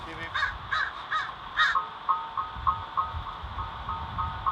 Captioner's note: bird